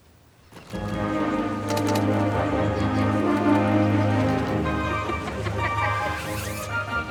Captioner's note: door slams; children chattering; exciting music